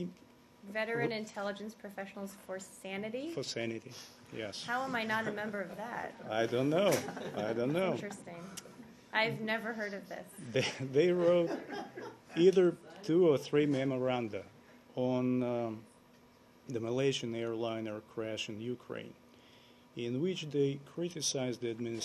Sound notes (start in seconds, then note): 6.8 laughter; 12.3 laughter